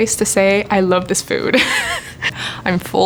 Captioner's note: laughing